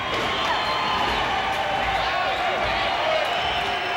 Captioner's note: crowd cheers